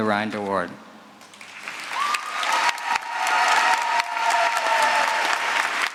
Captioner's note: applause